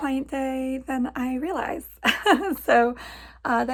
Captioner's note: laughs